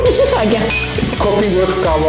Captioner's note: laughter